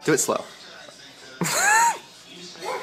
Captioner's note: laughs